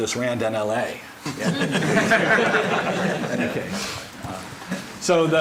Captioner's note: laughter